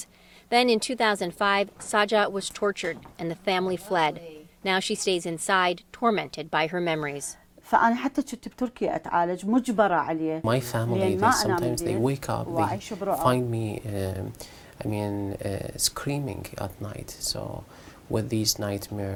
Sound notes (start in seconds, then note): 9.2 through translator